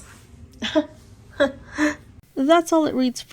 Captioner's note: chuckle